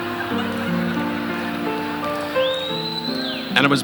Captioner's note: audience laughing